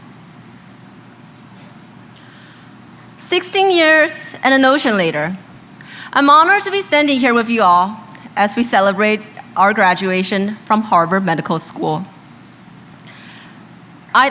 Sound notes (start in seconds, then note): none